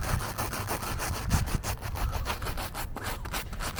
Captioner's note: digging sounds